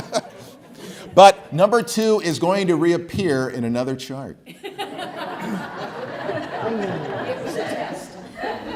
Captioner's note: laughs; laughs